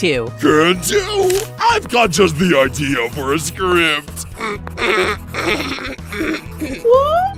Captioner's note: suspiciously stifled laughter